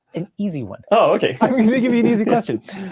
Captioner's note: laughing